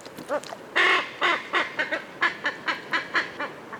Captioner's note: squawking